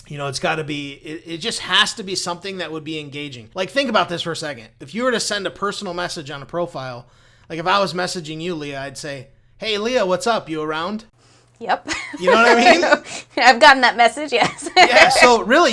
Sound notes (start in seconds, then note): 11.9 laughs